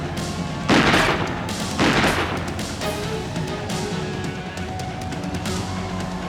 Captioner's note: dramatic music; gunshots blast